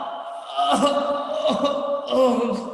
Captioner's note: grunts, fighting noises; groans in pain